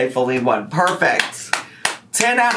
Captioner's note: clapping